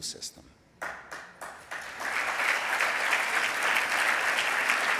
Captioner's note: audience clapping